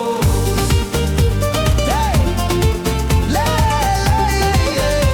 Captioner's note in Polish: Aplauz